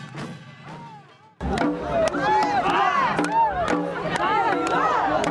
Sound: clapping and cheering

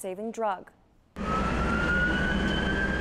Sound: sirens

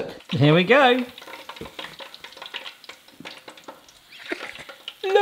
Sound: oil popping

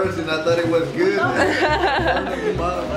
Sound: all laughing

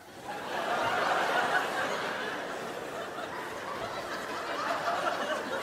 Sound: crowd laughs

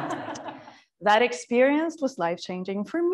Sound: audience laughing

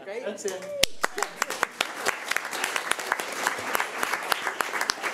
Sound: everyone applauding

